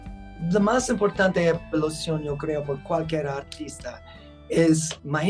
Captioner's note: speaking Spanish